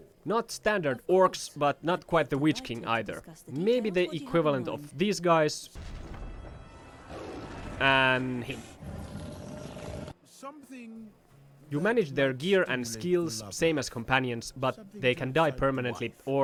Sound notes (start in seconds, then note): 10.5 Lurtz growling wile enjoying the sweet taste of blood